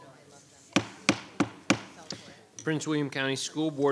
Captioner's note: gavel banging